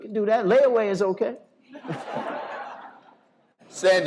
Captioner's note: laughter